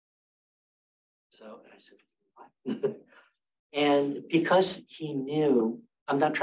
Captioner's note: laughs